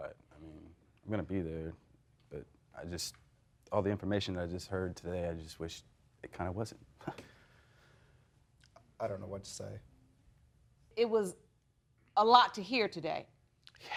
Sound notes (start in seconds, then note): 7.0 chuckling